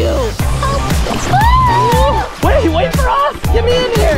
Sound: yells

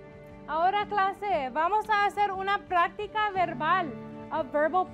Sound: speaking in Spanish

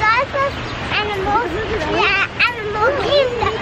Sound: chattering

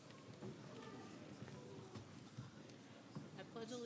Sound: crowd talking

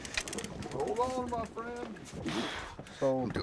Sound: reel spinning

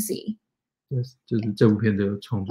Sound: speaks mandarin

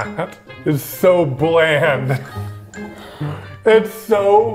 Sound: laughing

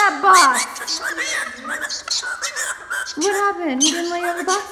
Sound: bird squawking

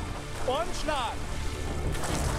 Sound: speaking German

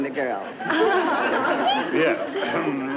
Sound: ladies chuckle

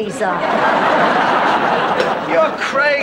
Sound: audience laughter

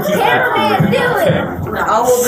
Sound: laughter

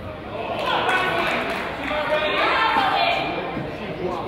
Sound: crowd applauds

